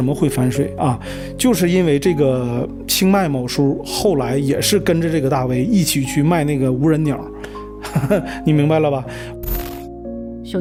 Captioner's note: laughs